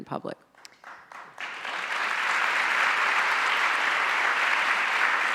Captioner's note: audience applauds